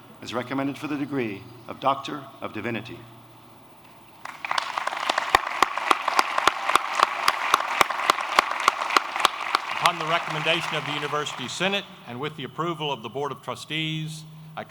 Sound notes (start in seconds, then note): 4.2 applause